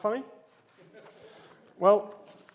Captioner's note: audience laughs